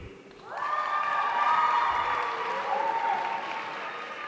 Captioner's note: audience cheering